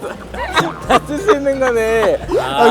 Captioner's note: falls over in laughter